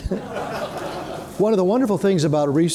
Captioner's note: people laughing